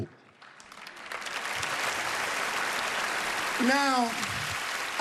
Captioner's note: applause